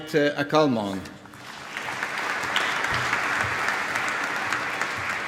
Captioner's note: applause